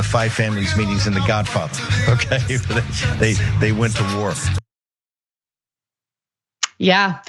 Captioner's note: laugh